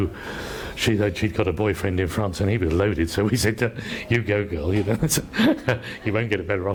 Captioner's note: laughs